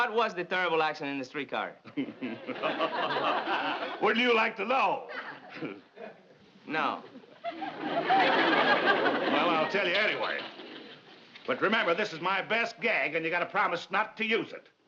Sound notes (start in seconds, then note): 1.8 laughing